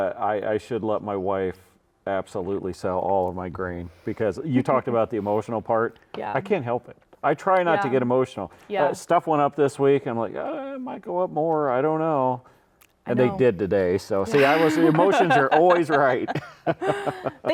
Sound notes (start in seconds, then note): 14.3 laughing; 14.3 laughs